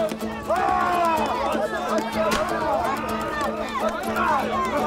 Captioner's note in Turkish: Bağrışma sesleri